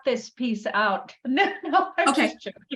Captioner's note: laughs